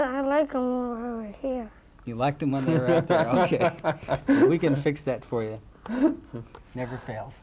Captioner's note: father laughs